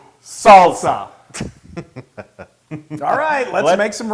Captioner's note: laugh